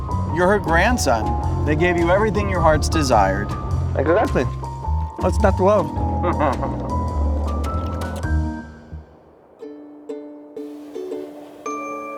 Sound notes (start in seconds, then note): 5.2 driver chuckles; 7.8 gentle instrumental music